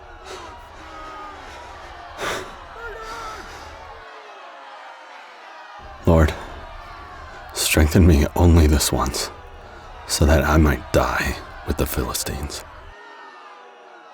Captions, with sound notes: (Samson sighs) - Lord, strengthen me only this once so that I might die with the Philistines.